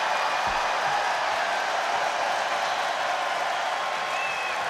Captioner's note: audience cheering